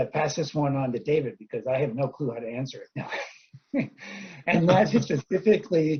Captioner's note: laughs